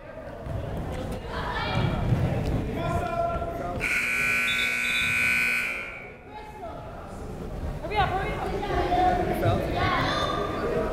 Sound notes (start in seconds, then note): 3.8 buzzer